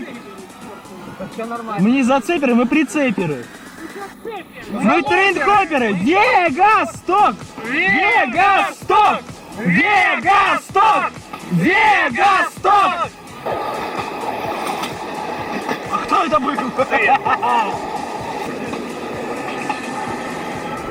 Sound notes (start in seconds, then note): 6.5 sounds of freighthoppers